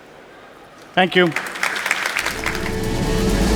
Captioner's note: audience applauding; upbeat music